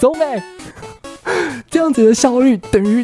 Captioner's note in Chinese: 吸氣